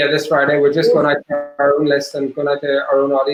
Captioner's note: digital interference drowning out speaker